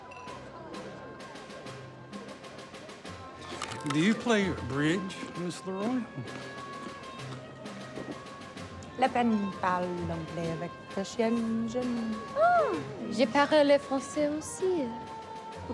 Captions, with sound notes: Do you play bridge, Miss LaRoy? [speaking French] Ah. [speaking French]